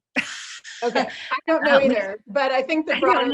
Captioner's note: chuckles